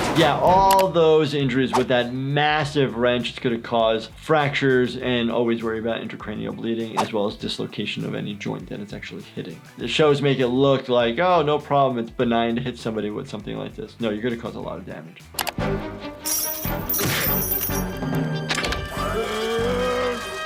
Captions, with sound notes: Yeah, all those injuries with that massive wrench it's gonna cause fractures and always worry about intracranial bleeding as well as dislocation of any joint that it's actually hitting. This show is making it look like, oh no problem, it's benign to hit somebody with something like this. No you're gonna cause a lot of damage. (mouse clicking) (chains rattling)